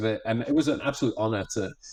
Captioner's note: none